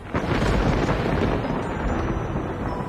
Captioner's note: thunder crackles